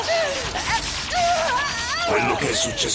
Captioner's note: groaning